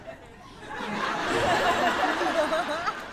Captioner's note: laughter